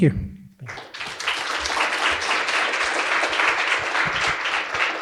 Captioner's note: audience applauds